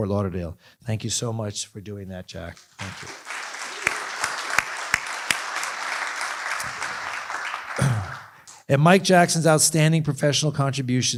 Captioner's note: applause